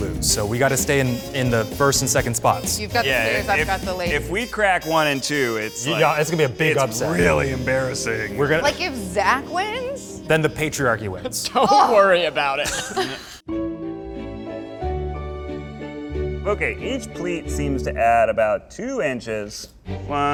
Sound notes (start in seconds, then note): 11.2 chuckles; 14.3 soothing music